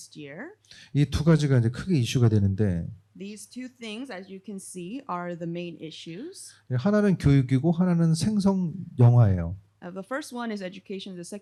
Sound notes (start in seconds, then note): 0.9 speaking korean; 7.2 speaking korean